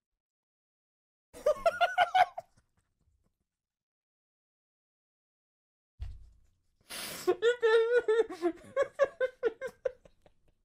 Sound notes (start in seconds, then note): 1.4 surprised laughter; 7.4 giggling